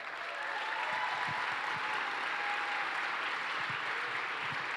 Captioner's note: applause